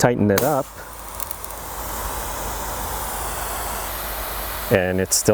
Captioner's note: pressure washer hissing